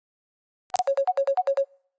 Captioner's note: incoming call